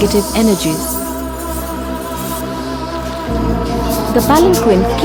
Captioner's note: chains clanking